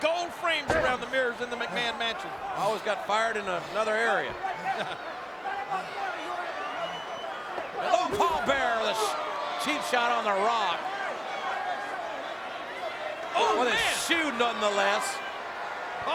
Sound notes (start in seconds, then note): 4.6 chuckles; 5.9 crowd shouting; 11.2 crowd shouting